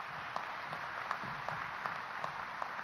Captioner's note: applause